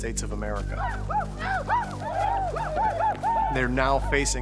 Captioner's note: indians whooping